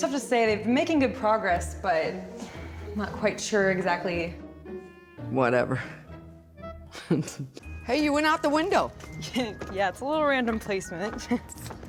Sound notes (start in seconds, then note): 6.9 chuckles